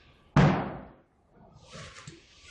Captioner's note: bang